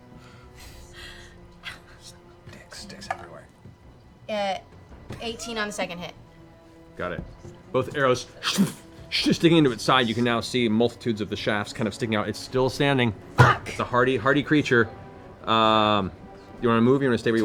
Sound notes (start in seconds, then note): 7.5 impacts